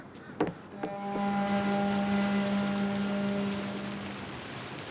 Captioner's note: boat horn honks